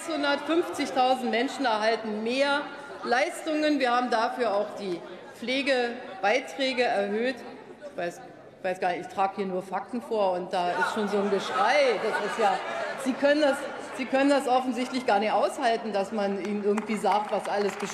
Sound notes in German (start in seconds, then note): 2.1 Zurufe von der SPD und dem BÜNDNIS 90/ DIE GRÜNEN